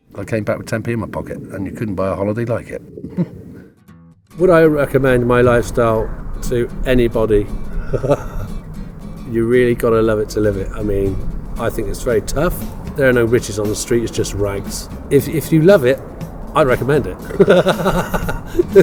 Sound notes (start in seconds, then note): 7.8 laughs; 17.2 laughs